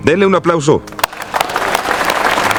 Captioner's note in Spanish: Aplausos de personas millonarias